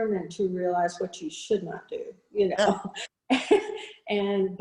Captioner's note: chuckles